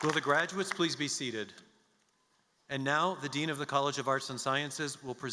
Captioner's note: applause